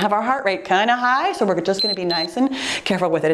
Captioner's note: timer beeps